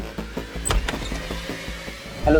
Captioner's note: door opening